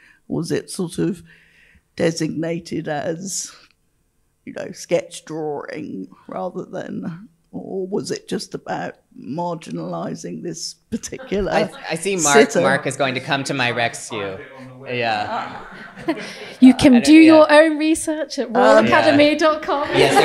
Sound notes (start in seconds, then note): 14.3 faintly speaking; 19.7 audience laughing